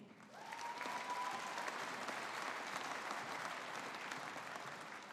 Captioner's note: audience applauding